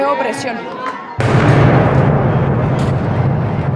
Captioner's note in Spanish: Disparo